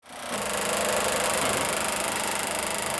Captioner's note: film projector running